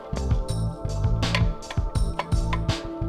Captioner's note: pressure plate clicks